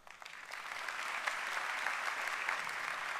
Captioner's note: applause